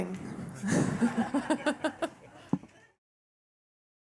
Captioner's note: laughing